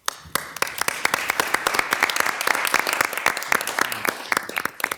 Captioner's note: everyone applauds